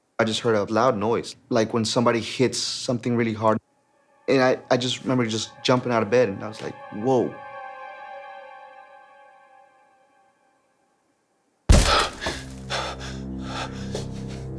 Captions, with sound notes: - I just heard a loud noise, like when somebody hits something really hard. And I just remember just jumping out of bed and I was like, "whoa". (thump) (gasping)